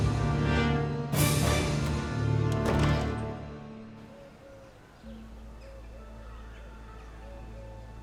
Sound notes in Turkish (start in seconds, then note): 1.6 Kapı kapanma sesi